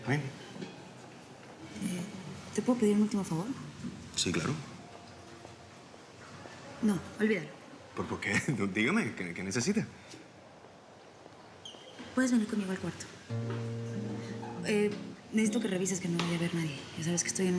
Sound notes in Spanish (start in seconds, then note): none